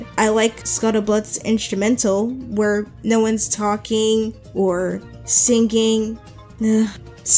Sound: sighs

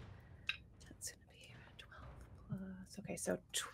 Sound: dice clatter; whispers

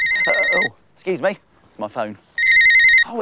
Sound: phone rings

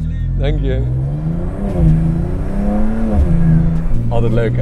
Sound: sound driving car

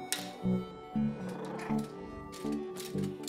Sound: Jazzy growls

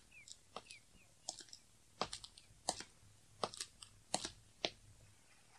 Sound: SFX: footsteps

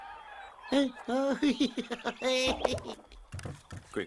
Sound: laughs; clucks

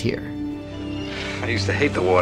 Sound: birds cawing

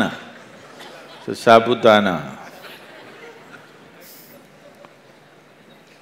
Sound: laughter

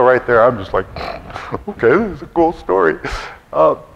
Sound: sniffs loudly

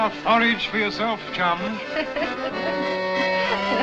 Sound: laughing

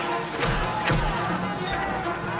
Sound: splash; thuds; wooshing

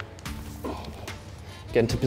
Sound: grunting

